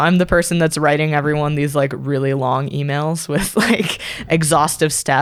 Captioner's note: laughs